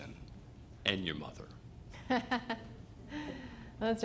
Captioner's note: laughter